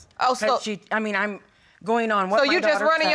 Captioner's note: stammering